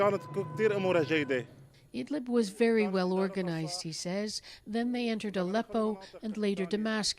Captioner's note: speaking alternate language